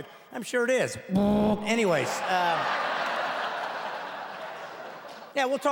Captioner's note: blowing sound; laughing